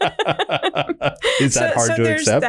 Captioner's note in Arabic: كلاهما يضحك